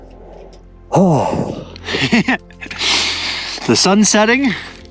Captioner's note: laughs